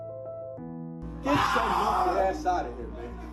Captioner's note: agressive shouting